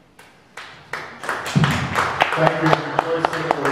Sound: audience clapping

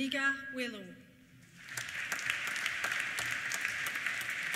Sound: applause

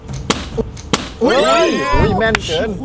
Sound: cheering

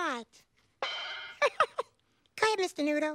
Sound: Elmo laughs

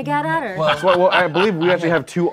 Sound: laughing

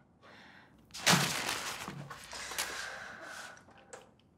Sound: paper rustling

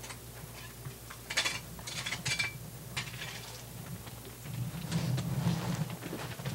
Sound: scraping continues

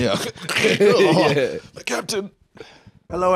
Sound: groans

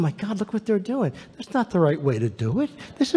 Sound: none

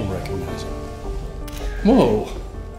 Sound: shutter flash

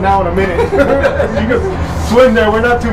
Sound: laughs

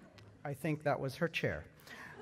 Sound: laughter

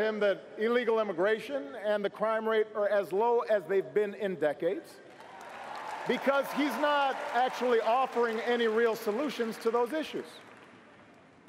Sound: cheers & applause

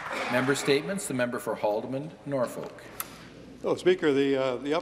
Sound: some Applause

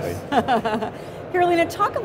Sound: laughing

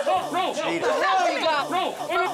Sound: yelling

